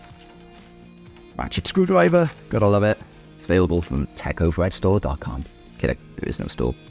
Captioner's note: ratchet screwdriver sound